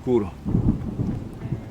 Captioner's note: storm